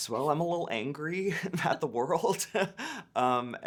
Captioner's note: laughing